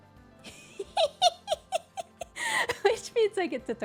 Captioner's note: laughs